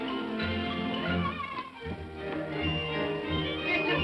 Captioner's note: Tiny Tim cheers; upbeat music